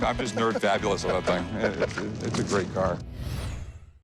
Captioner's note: chuckles